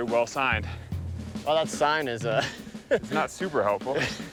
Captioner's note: laughing